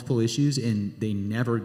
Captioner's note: none